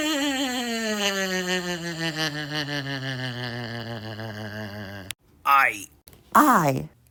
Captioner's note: SpongeBob laughing